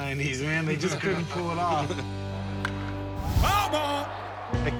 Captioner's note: laughter